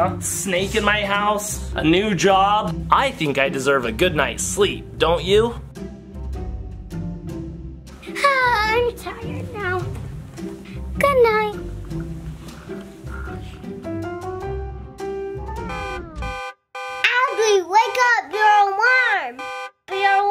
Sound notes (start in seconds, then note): 12.0 gentle music; 15.6 alarm ringing